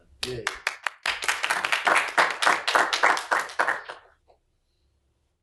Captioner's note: applause